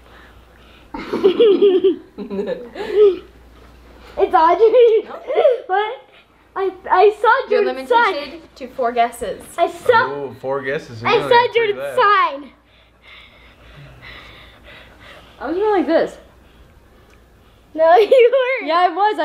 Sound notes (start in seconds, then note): 0.0 laughs; 0.9 laugh; 4.4 laughing; 12.5 heavy breathing